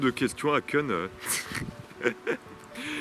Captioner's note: laughs